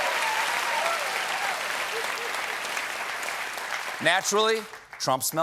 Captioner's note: applause